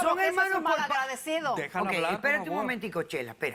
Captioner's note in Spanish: Hablan al unísono